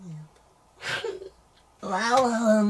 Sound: argh

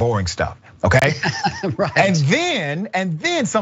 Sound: laugh

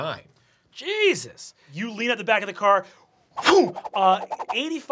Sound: whooshes

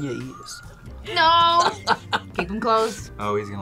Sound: laughs

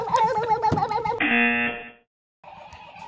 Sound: laughs; buzzer rings

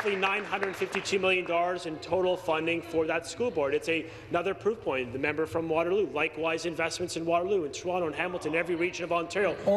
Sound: applause

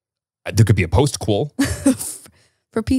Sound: chuckles

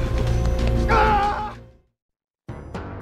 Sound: yells

